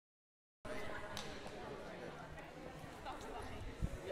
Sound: crowd talking

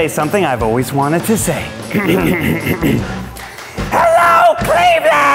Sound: clears throat

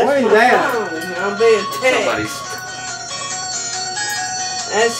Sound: cell phone ringing

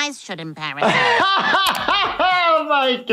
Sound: laughing

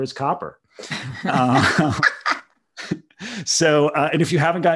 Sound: both laugh

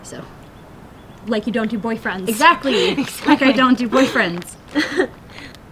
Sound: chuckle

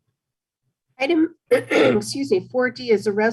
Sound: clears throat

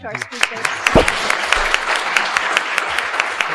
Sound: applause

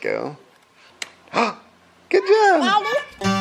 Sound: gasps

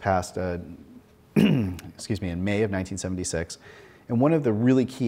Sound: clears throat

